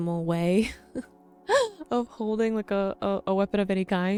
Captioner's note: chuckles